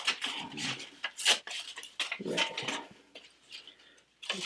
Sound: paper ripping

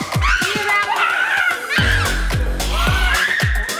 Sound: squealling

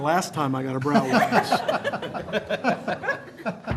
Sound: laughter

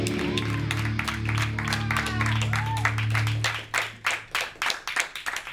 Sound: audience cheers and applauds

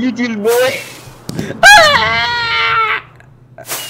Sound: gasp

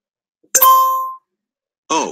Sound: doorbell Ring

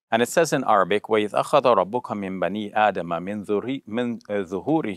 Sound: speaks Arabic

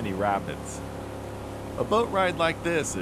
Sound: boat engine running

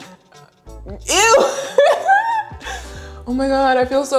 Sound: laughs

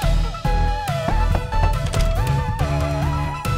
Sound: knocking on door

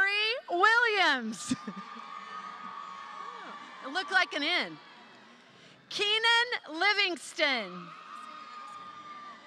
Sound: laughter

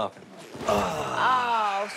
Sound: sighs

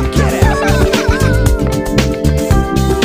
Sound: Minions Laughing

